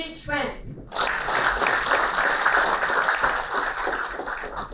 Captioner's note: applauding